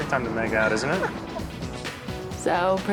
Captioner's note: laughs